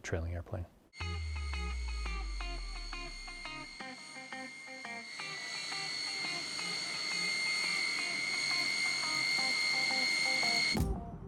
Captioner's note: music/jet engine revving up